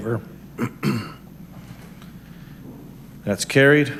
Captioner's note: clears throat